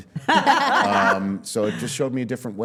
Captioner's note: all laughing